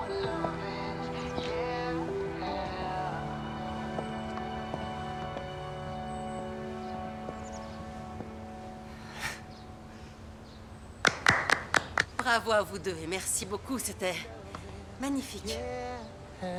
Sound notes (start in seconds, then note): 11.0 clapping